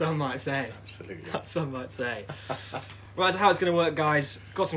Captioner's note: laughter